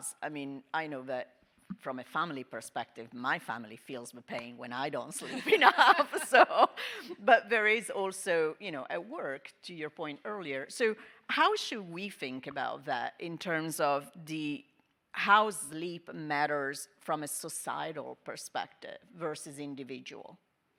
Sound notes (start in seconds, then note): 5.2 panelists laughing